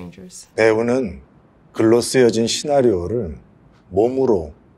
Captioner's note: speaking in foreign language